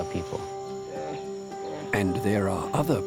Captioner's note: bears growl